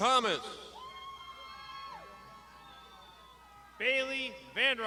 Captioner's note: graduands shouting